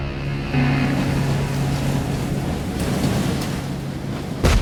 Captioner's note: wind howls